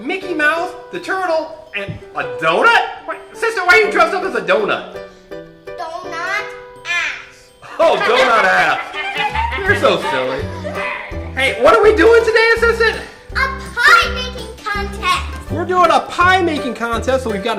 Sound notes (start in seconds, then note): 7.6 laughing